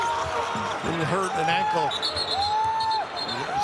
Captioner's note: whistle blows